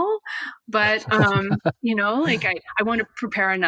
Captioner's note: laughs